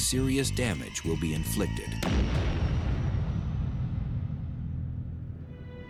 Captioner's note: gunshot